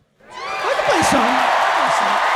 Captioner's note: audience cheering